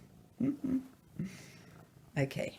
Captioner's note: chuckles